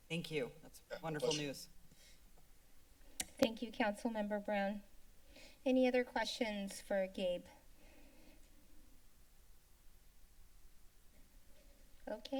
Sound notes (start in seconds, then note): 2.0 silence; 7.5 silence